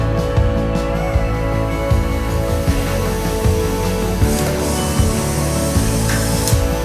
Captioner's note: timer whining noise